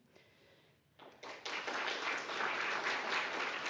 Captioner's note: applause